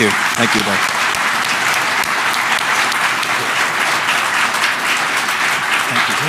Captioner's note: applause